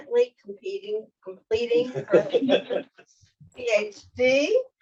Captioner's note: panelists laughing